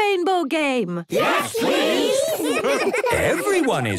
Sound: laughter

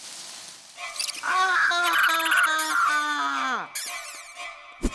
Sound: leaves rustling; screaming; ominous music

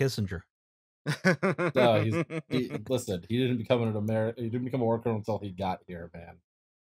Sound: laughter

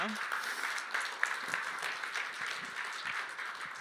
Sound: applause

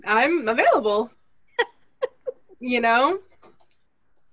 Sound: laughter

